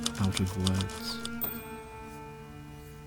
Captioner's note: typewriter ding